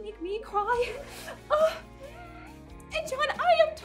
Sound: screeches

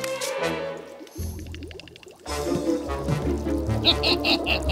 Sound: cauldron is simmering

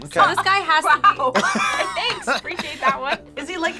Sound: laughs

